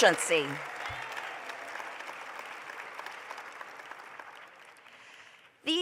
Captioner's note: applause